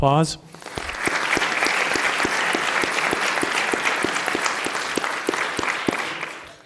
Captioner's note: applause